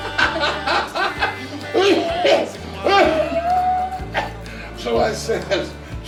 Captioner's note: everyone laughing; Jake coughing